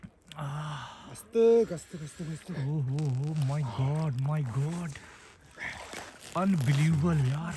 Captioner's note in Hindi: गहरी सांस लेने की आवाज़